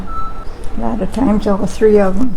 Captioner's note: car beeping